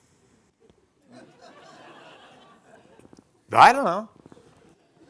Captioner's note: audience laughing